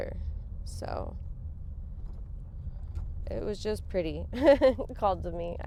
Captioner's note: chuckles